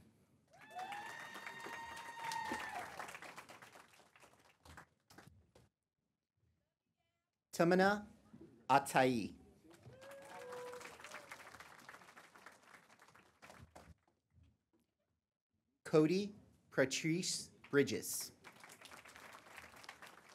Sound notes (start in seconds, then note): 0.5 applause; 9.6 applause; 17.6 applause